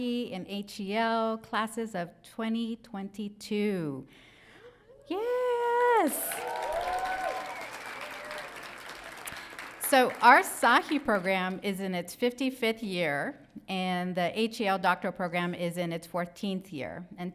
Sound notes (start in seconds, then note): 6.0 audience cheering